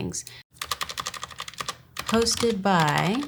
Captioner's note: keyboard clicking